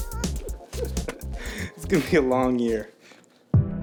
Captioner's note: laughing